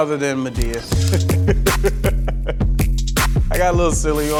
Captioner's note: laughing